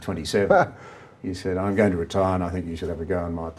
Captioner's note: laughs